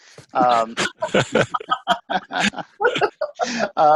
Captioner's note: all laugh